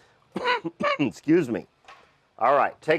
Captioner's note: coughs